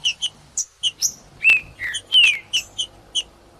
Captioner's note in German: trinca ferro cantando